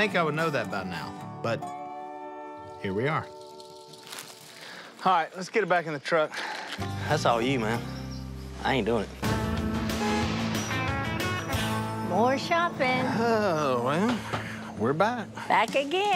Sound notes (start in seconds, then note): 10.7 car horn honks; 14.0 sighs